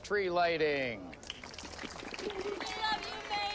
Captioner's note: audience applauding